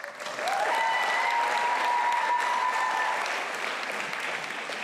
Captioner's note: applause and music